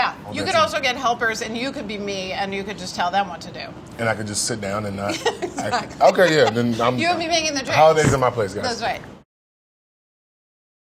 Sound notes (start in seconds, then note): 5.1 laughs